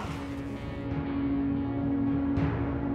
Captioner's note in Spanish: grito